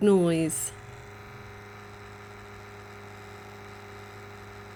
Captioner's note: really loud fan noise